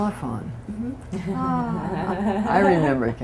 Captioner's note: laughter